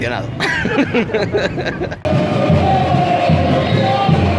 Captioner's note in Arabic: يضحك